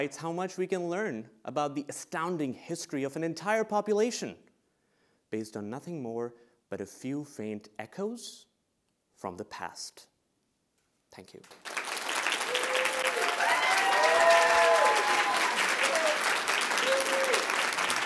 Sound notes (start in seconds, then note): 11.5 audience applauding; 11.8 audience cheering